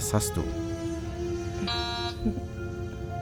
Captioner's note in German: Türsummer